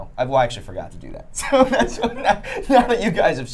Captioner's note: laughing